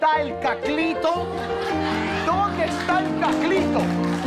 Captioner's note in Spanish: Risas